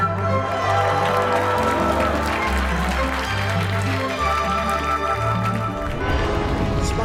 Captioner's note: applause